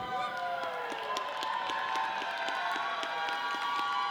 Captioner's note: audience cheers